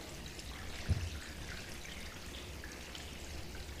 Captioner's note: water dripping